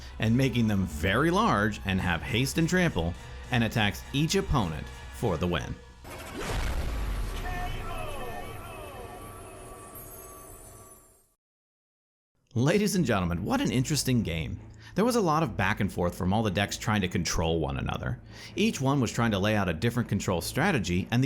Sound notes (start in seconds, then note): 6.0 whooshing sound